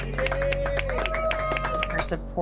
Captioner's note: cheers and applause